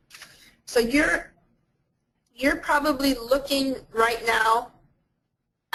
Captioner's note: voiceover